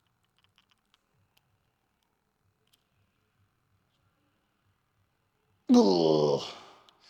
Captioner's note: exhales